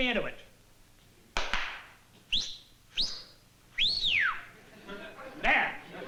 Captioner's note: whistling